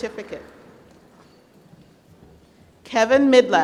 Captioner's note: applause